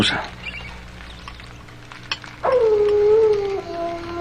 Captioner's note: coyote howling in distance